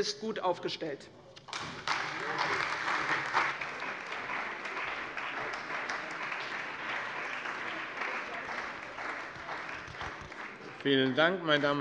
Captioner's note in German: Beifall bei der CDU und dem BÜNDNIS 90/DIE GRÜNEN